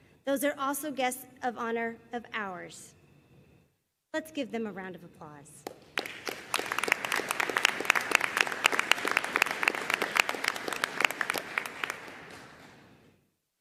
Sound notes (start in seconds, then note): 5.7 audience applauding